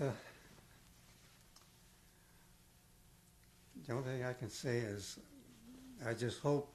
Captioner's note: pauses for 3 seconds